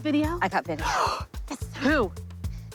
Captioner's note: gasps